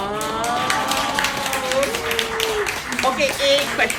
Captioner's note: applause